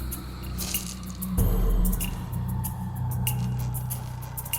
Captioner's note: soft crunching